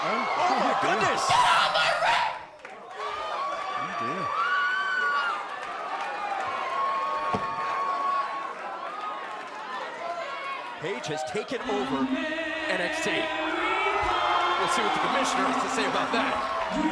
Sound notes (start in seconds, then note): 6.0 crowd cheering; 8.4 crowd chatter